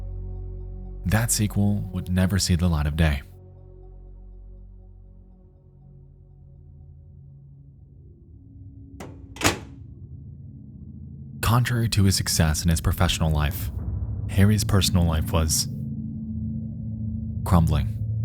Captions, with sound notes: that sequel would never see the light of day. (metal clacking) (gentle foreboding music) Contrary to his success in his professional life, Harry's personal life was crumbling.